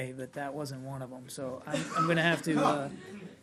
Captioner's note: laughter